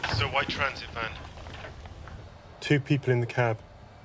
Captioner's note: man over phone